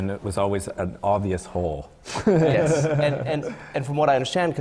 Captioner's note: laughter from the panel